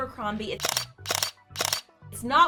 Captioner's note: camera clicking